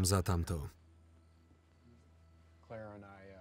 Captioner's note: crickets chirping